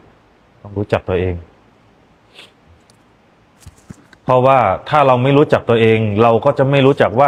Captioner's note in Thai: เสียงสูดหายใจ